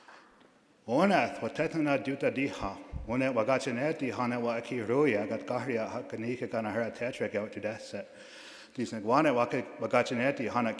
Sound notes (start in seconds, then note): 1.0 speaking in a foreign language